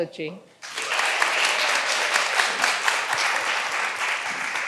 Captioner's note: all applauding